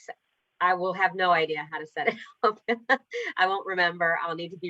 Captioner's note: laughter